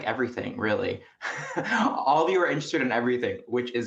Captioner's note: chuckles softly